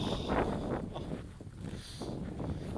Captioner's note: chuckles